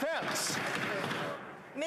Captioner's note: applause